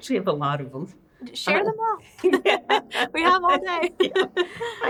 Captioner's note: both laughing